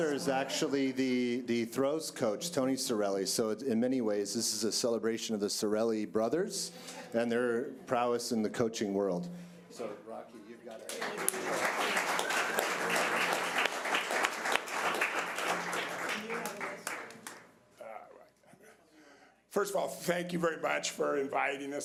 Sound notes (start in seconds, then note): 10.8 audience applause